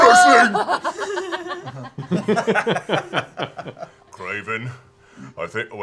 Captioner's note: laughter